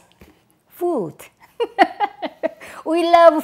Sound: laughs

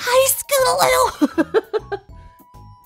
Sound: laughs

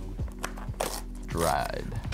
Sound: none

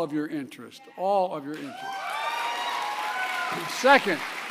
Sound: applause

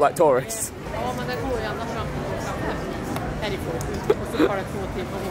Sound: foreign language

